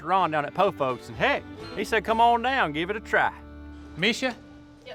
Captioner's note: none